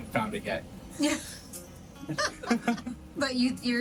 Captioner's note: and crew member laughing